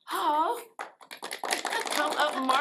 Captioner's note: applause